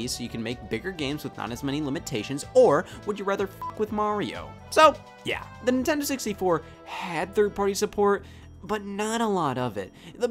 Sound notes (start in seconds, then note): 3.6 beep